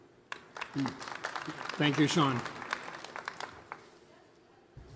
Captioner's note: applause